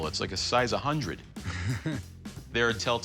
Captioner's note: chuckles